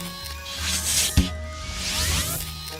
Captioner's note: suction hissing